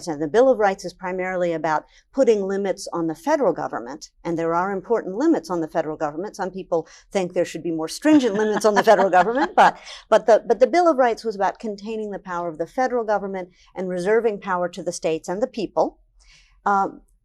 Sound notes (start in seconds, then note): 8.0 laughs